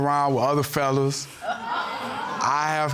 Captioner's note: audience exclaiming